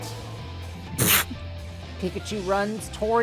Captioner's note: someone scoffs